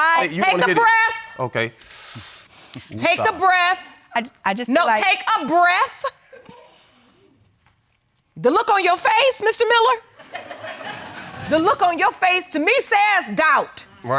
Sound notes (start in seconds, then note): 1.8 inhaling deeply; 10.3 audience laughing